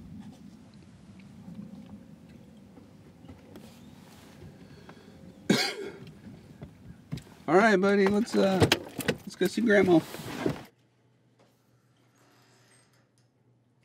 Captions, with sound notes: (coughing) - Alright buddy, let's, uh, let's go see grandma.